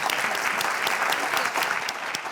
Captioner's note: applause